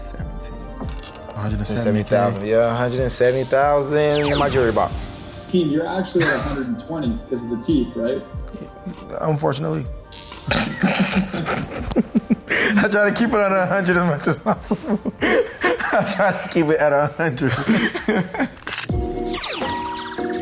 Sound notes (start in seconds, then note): 10.5 Shaquill and Shaquem laugh; 16.7 chill electronic music